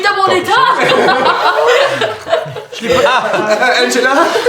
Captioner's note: laughter